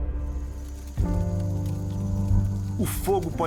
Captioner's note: light bonfire sound